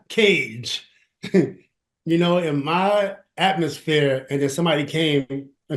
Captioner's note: chuckles